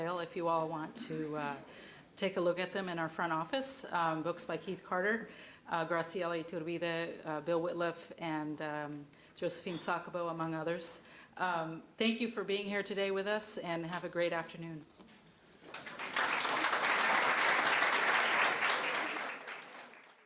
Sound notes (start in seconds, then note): 15.6 crowd applause